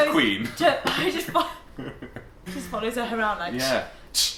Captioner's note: laughter; spraying